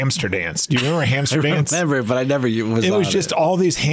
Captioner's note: laughs